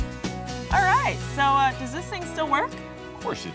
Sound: mower sound

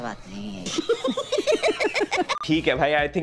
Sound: laughing

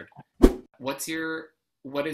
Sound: whoosh

